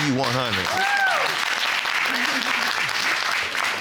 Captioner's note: audience cheering